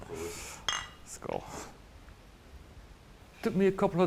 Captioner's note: bottles clink